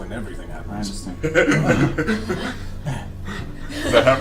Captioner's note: all laugh